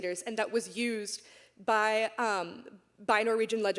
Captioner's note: none